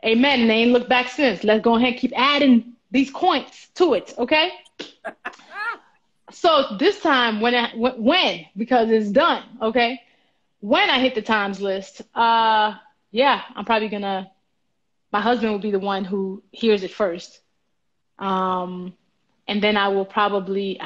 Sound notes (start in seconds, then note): 4.8 laughs